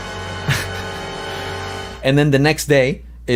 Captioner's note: laughs